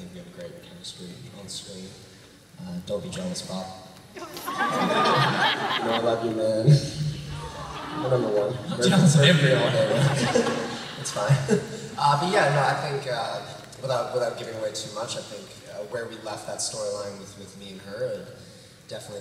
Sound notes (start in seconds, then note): 4.2 laughter